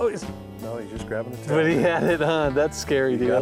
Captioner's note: laughs